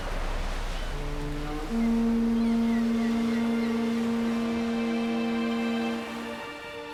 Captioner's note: horn sounds